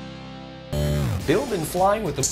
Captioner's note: buzzing